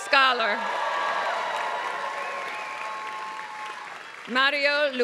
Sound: applause

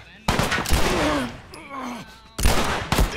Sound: man groans

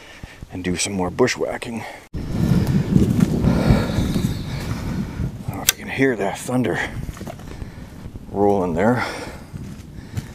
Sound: thunder

